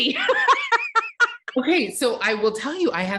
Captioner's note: laughing